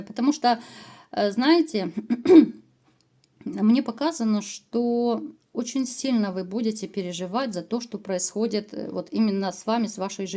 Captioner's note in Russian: откашливается